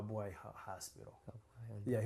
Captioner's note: non-english